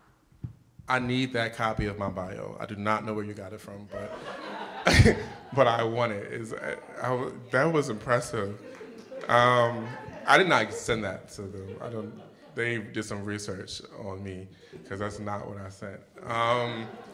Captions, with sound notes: - I need that copy of my bio. I do not know where you got it from. (audience laughing) But I want it. That was impressive. I did not send that to them. They did some research on me 'cause that's not what I sent.